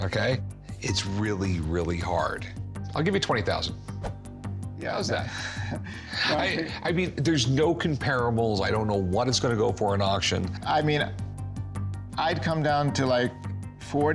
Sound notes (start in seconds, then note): 5.2 exhales; 5.4 chuckles